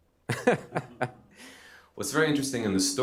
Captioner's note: laughs